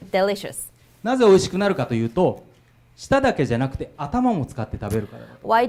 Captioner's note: speaking foreign language